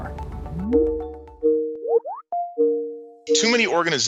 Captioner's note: phone ringing